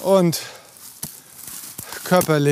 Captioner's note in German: atmet schwer